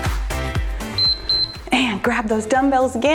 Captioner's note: timer beeps